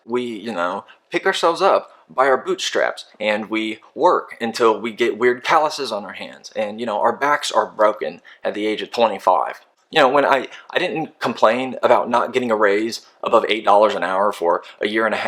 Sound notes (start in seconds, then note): none